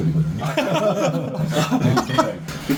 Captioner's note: laughs